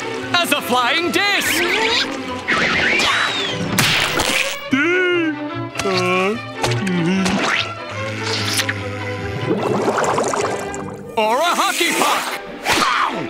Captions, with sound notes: As a flying disk! [chopping] [moaning] Or a hockey puck! Bow!